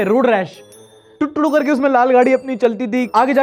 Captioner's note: mimics road rash sound effect